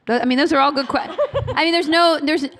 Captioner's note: laughter